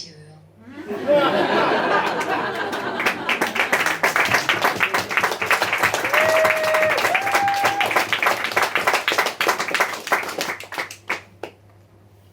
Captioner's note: audience laughs, applauses and cheers